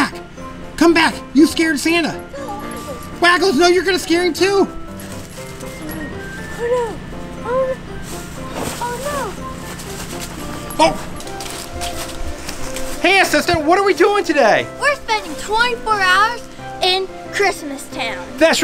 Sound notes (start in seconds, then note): 10.7 dog barking